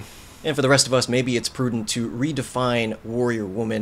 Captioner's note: none